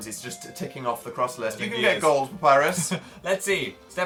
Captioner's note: laughs